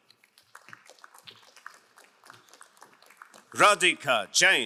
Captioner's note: crowd applauding